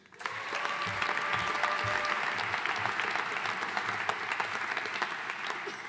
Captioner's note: audience cheering and applauding